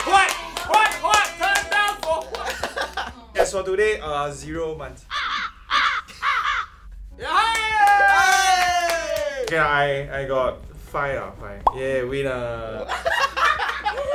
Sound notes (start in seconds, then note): 7.2 cheering; 12.7 laughing